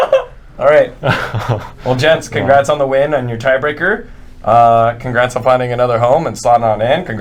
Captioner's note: laughs